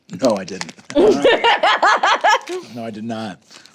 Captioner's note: laughs